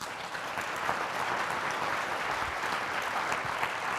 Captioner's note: applause